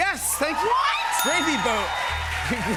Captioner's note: ding